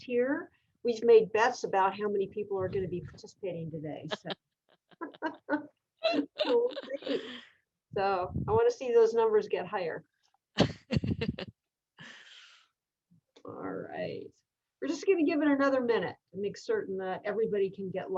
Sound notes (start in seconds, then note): 4.1 laughter